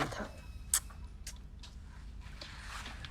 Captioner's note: clicks tongue